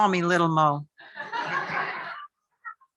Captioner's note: laughter